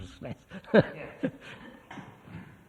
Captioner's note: laughs